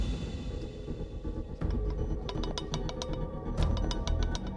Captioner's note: tense music; blade trembling